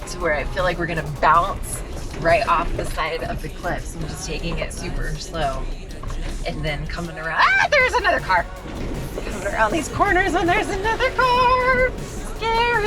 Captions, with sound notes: to where I feel like we're going to bounce right off the side of the cliffs. I'm just taking it super slow and then coming around. (shrieks) There's another car. Around these corners, and there's another car, scary.